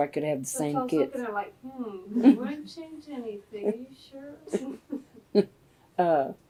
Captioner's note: laughter